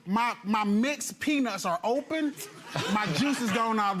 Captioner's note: audience laughs